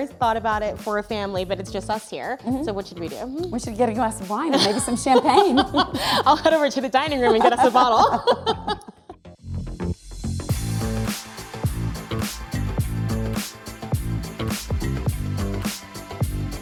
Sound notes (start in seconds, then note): 4.5 laughing; 10.5 upbeat music